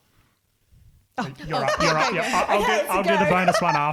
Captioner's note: laughing